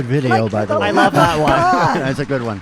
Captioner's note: audience clapping